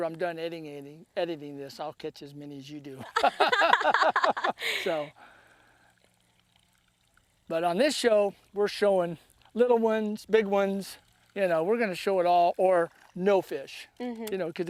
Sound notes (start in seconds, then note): 3.0 laughter